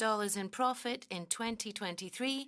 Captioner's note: speaking French